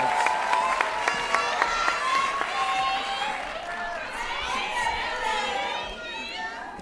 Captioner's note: applause and Cheering